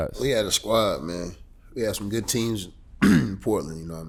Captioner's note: clears throat